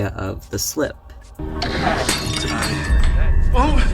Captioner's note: mug breaking sound